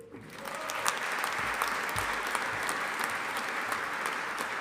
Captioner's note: audience applauding